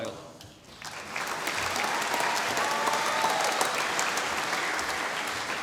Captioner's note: applause